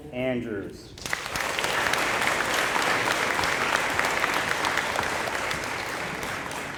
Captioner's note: applause